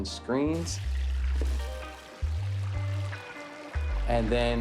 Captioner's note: sizzling